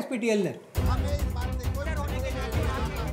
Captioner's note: Arguing